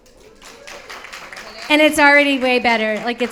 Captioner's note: audience applauds